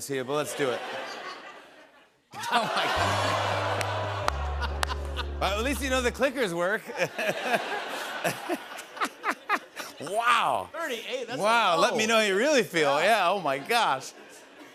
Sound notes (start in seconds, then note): 0.5 laughter; 2.4 audience exclaims; 6.8 laughter